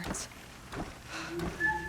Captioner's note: sigh